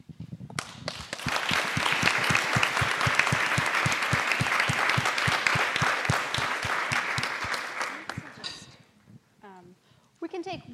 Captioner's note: applause